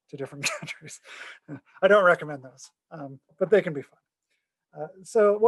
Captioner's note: laughter